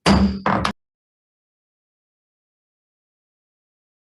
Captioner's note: gavel bang